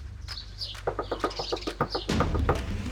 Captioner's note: rhythmic knocking